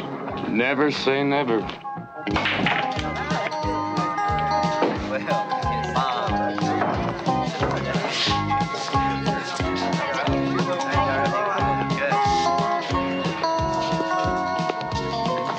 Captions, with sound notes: - Never say never. (honky-tonk music) (pool balls clashing) (patrons chatting)